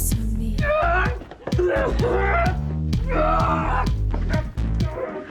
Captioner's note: Randy groaning